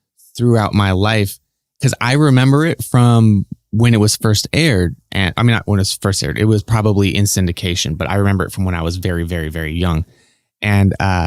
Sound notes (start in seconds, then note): none